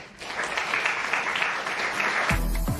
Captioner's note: applause